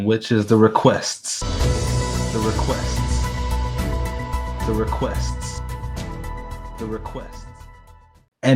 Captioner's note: voice echoes